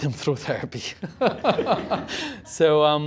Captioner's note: laughter